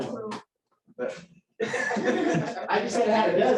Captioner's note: laughter